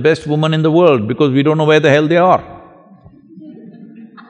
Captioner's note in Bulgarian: Смях